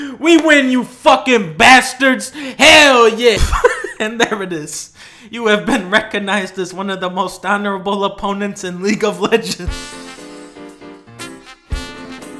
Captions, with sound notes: We win, you fuckin' bastards! Hell yeah! *Laughs* And there it is... "You have been recognized as one of the most honorable opponents in League of Legends"!